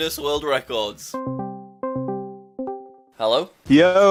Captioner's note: discord call ringing